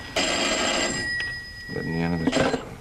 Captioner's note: ringing continues